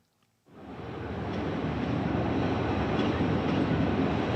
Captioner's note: train rumbling